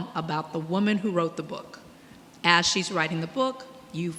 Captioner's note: none